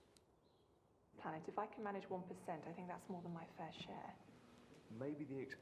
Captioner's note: tv sounds